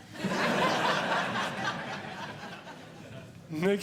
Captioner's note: audience Laughing